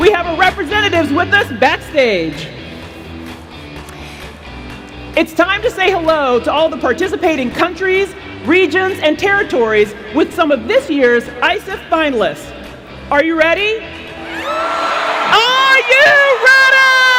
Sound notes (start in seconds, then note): 14.2 cheers